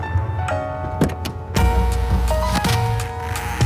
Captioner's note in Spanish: Sonido al cerrar la puerta